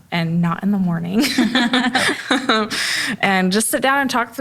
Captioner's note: laughs